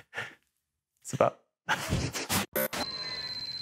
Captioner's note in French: rires